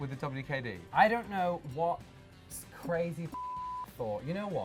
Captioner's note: beep